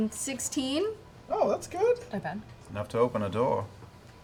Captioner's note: none